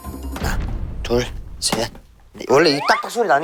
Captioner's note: unnerving cracking sound